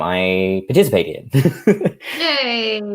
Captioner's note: chuckles